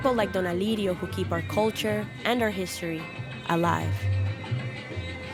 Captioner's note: speaking Spanish